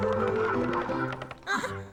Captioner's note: gasps